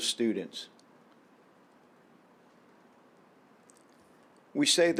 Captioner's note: silence